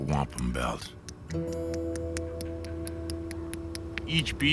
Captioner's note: tapping